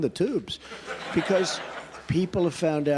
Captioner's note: laughter